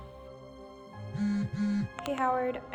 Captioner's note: cellphone Vibrates